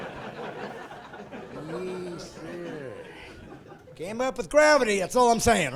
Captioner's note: laughing